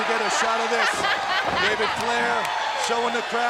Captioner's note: Daffney laughing